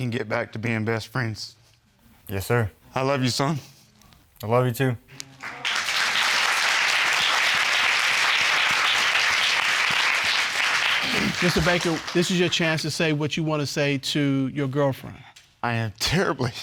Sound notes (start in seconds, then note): 6.5 audience applauding